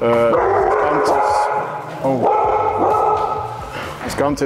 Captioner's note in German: lautes Hundegebell